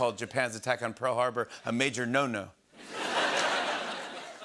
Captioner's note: laughter